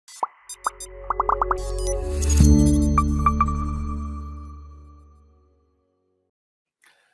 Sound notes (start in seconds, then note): 0.4 techno music; 1.1 bubbles popping